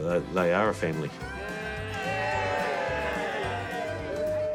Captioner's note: all cheer